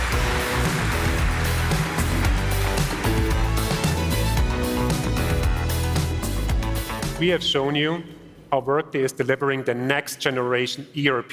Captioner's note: applause